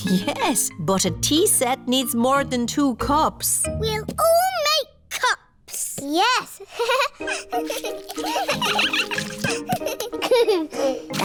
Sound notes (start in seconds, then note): 6.7 giggles; 7.5 all giggling